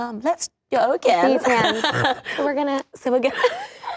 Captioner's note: laughing